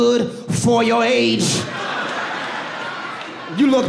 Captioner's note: audience laughs